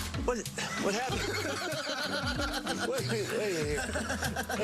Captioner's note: laughter